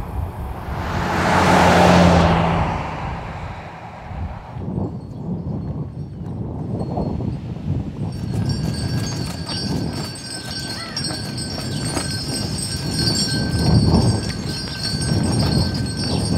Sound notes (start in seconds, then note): 0.0 passing traffic; 4.7 howling wind; 11.5 wind chimes